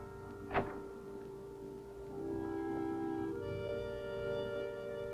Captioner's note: door closing; gentle music